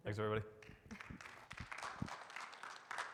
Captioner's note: audience clapping